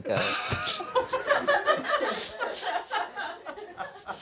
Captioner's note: all laughing